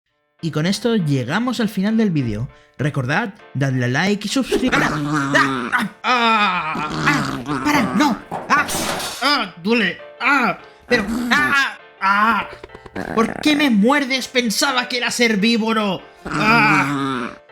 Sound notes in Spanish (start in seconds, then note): 4.7 Gritos de dolor